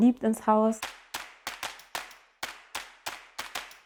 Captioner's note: rhythmic clapping